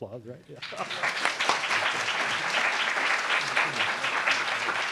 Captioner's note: applauds